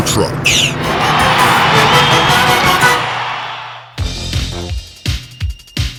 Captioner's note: audience cheering